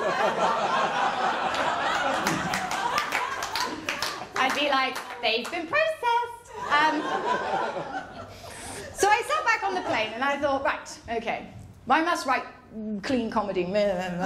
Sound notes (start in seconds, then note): 0.0 laughter; 6.6 laughter